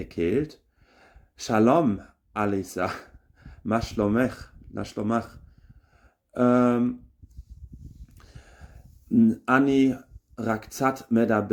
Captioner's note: Hebrew